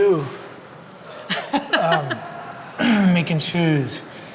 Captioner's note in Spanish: se ríe